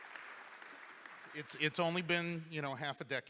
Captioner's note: applause